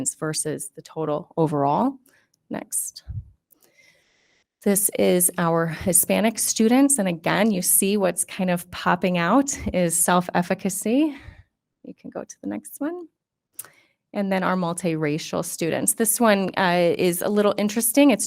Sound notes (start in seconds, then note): none